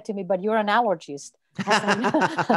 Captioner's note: laughing